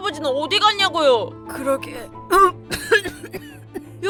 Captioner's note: cough, cough